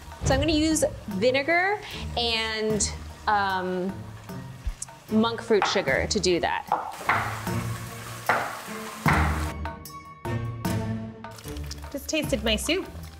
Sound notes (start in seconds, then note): 6.8 knife hitting cutting board; 9.7 dramatic music